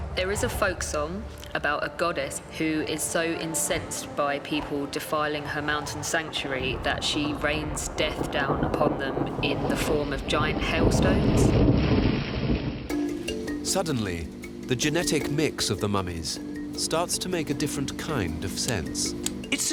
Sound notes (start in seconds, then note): 11.1 hailstones clattering; 11.1 thunder rumbling